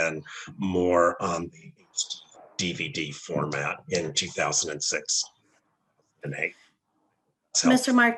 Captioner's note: technical Interference; technical Interference